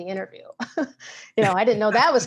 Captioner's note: both laugh